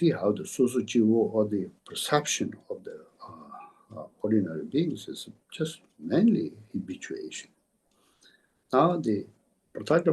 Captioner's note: tibetan